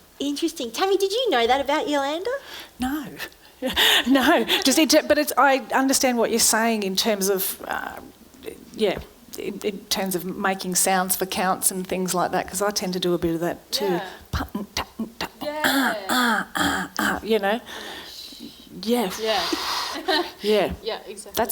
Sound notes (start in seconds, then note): 14.3 sings rhythm sounds; 18.2 make whooshing sounds